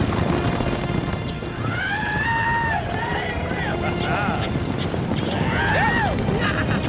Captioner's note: cowboys shouting